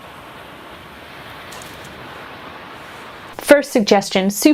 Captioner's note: crashing waves